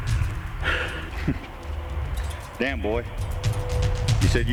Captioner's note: chuckles